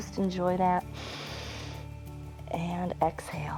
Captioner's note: inhales